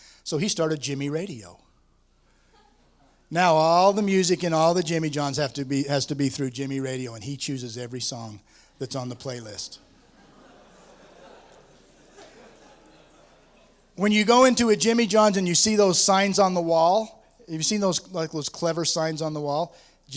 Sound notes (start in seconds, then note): 9.8 laughter